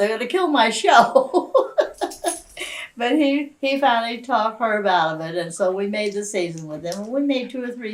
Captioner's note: laughs